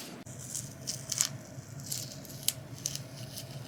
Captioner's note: tape crackling